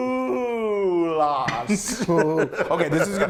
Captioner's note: laugh